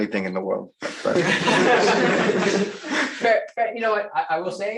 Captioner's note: laughter